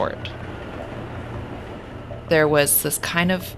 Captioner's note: train whooshing distantly